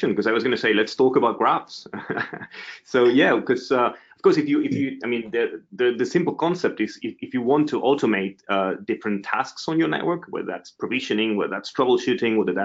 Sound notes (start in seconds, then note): 1.8 chuckles